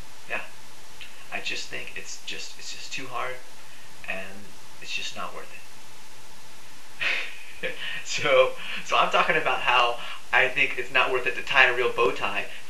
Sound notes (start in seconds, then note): 7.0 laughs